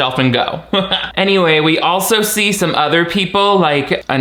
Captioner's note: chuckles